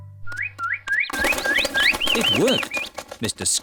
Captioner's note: all tweeting